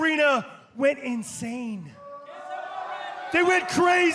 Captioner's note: crowd cheering